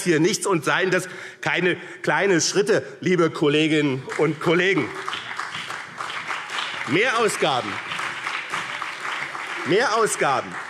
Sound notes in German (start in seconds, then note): 4.0 Beifall BÜNDNIS 90/DIE GRÜNEN und CDU